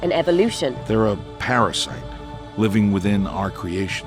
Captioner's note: voiceover